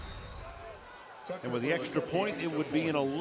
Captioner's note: swoosh